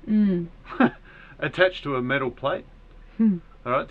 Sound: laughs

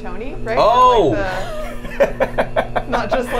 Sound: laughs

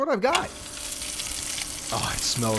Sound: sizzling

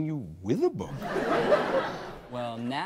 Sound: audience laughs

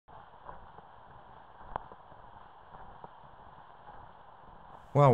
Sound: footsteps, walking down the street

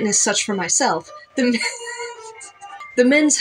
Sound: quiet Laugh

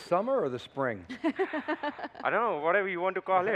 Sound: laughter

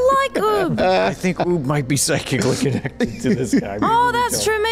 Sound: laughs

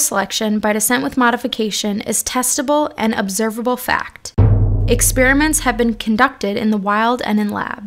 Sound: thud

